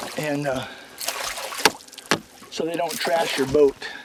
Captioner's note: splashing